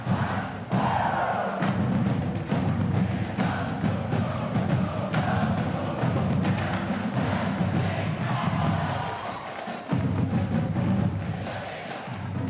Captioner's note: applause